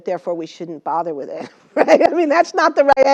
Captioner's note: laugh